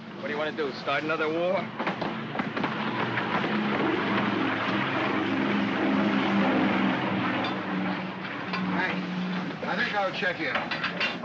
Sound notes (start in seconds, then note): 2.4 aircraft rumbles